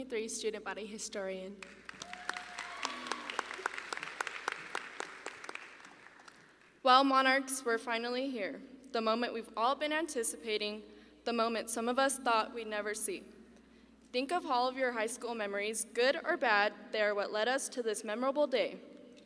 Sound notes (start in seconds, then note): 1.6 audience applauding